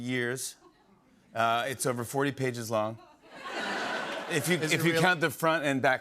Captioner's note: laughter